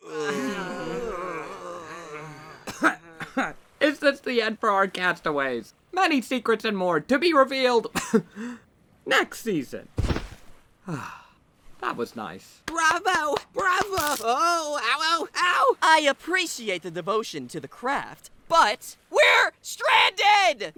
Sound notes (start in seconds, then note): 0.0 all groan; 2.6 coughs; 7.9 cough